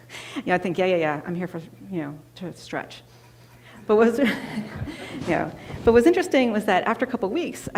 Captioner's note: laughter